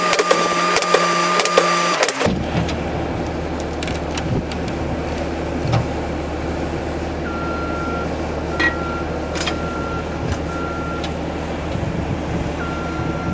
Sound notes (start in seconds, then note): 5.3 skid-steer engine running and back up alarm beeping; 12.0 skid-steer engine running